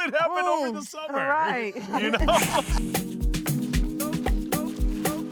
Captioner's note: everyone laughing; upbeat music